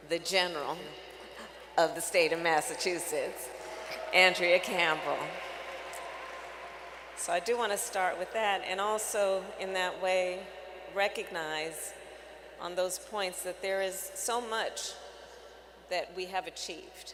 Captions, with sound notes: the General of the State of Massachusetts, Andrea Campbell. (Applause.) So I do want to start with that and also, in that way, recognize on those points that there is so much that we have achieved